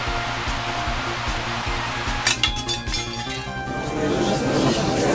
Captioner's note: Static; gallery chattering